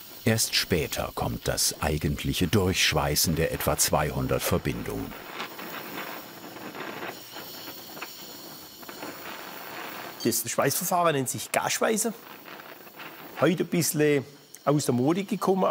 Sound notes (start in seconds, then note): 6.1 flickering hissing